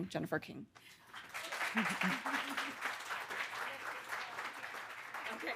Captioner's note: audience applauding